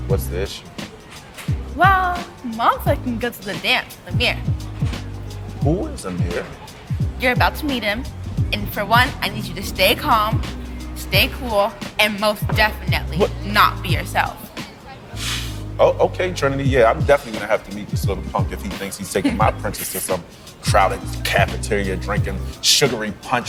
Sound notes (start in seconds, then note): 15.1 sighing